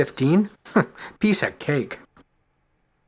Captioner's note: chuckles